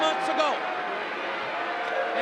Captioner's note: audience jeers